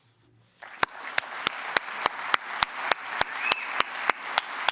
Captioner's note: applause